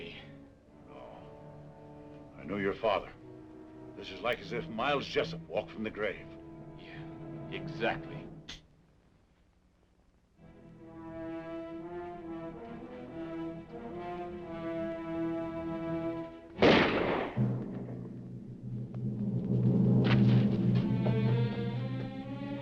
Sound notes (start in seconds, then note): 10.8 dramatic music; 16.6 gun firing; 19.7 dramatic music